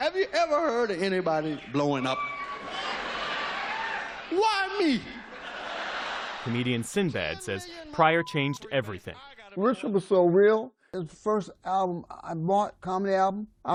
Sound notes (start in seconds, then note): 5.0 laughter